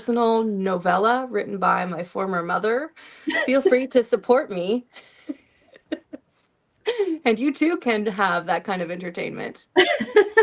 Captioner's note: laughter; laughter